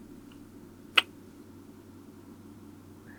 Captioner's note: kiss